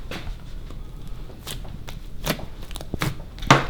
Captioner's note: squishing